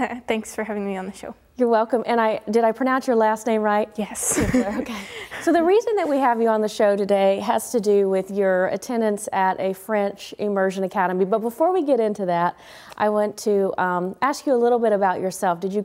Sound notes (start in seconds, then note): 4.3 laughs